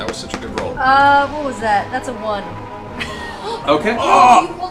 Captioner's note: laughs